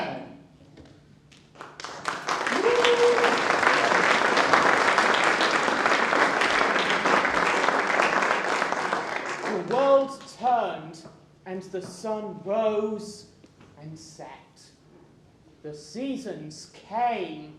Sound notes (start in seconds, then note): 1.4 applause